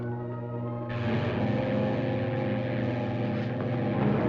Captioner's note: buzzing